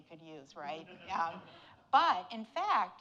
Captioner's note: audience laughing